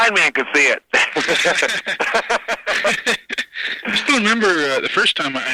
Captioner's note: both laughing